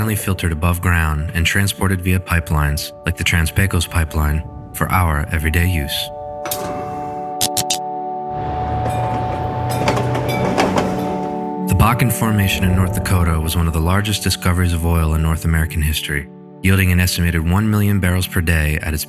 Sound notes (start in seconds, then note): 6.3 stove flicking on; 7.4 light bulb flicking on; 8.0 streetcar ringing bell and passing; 10.8 upbeat ambience